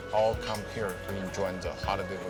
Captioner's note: none